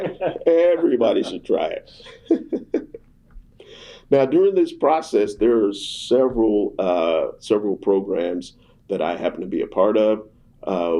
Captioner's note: laughter